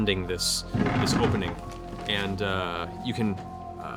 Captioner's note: door creak